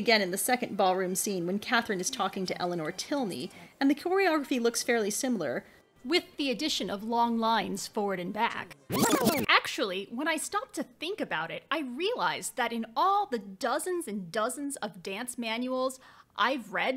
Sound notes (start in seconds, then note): 8.9 video pausing noise